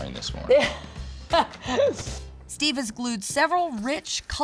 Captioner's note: laughing